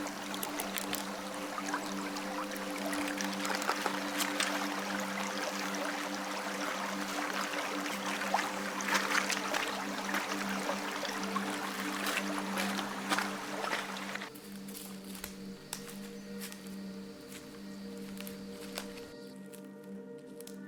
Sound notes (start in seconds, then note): 8.3 river running; 16.4 ominous music